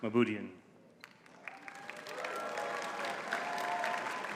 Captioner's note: audience clapping